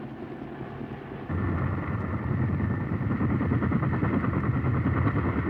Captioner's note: helicopter blades